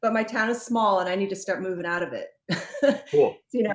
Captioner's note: laughs